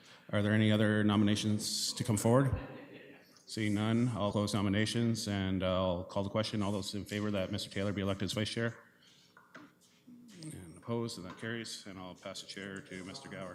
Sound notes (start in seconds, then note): 2.5 laughter